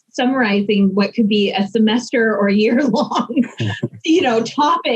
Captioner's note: laughs